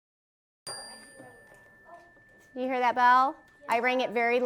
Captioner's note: ding